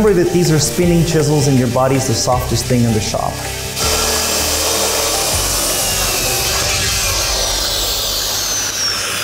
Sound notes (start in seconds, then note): 0.1 tense music; 3.5 tense music; 3.6 saw whirring